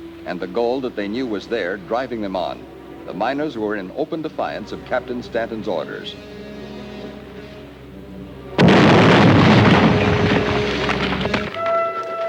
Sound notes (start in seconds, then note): 8.6 explosion booms